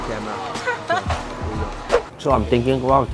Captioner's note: laughs